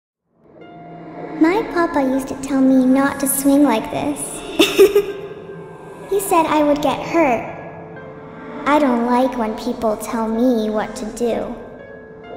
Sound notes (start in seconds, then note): 4.5 laughs